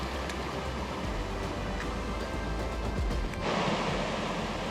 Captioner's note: water splashing